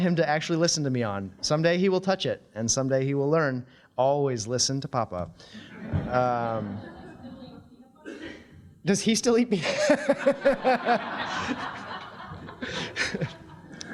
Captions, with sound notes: to actually listen to me on. Someday he will touch it and someday he will learn, "Always listen to Papa." [audience laughing] Does he still eat peanut butter? [all laughing]